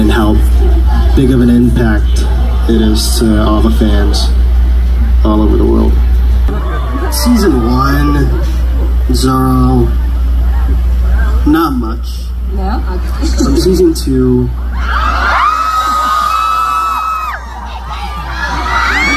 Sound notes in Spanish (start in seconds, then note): 14.7 Gritos emocionados porque ya fue confirmada